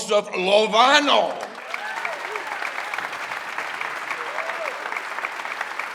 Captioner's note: audience applauding